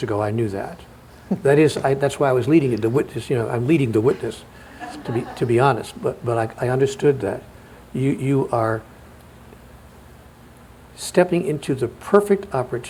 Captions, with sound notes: ten minutes ago, I knew that. That's why I was leading you, the witness, you know, I'm leading the witness (laughter) to be honest, but I understood that. You are stepping into the perfect opportunity